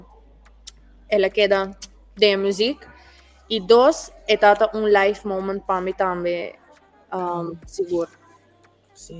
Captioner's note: kiss